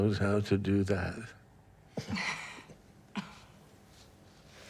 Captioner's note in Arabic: روبن ضحكة مكتومة